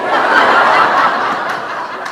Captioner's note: laughter